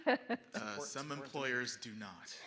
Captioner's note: laughing